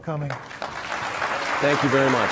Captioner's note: applause